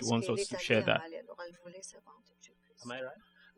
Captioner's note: speaking french